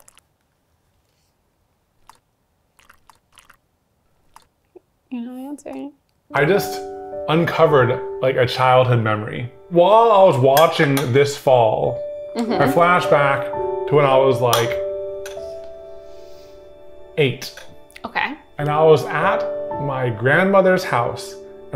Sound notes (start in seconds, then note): 2.7 juice trickling